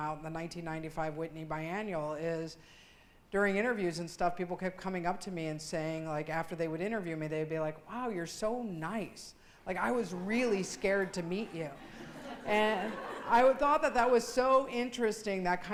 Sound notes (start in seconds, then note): 11.8 laughing